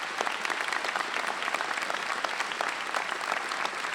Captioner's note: applause